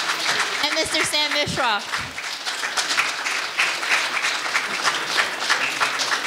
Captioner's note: audience applauding